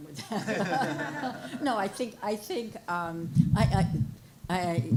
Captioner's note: audience laughing